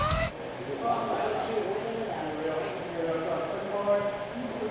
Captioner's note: crews chattering